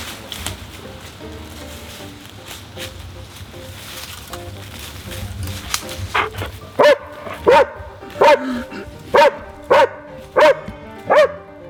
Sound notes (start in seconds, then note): 6.1 dog barking